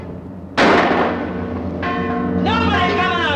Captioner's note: gun firing